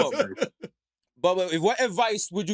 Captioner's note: laughter